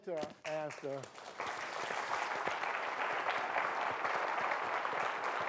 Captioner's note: applause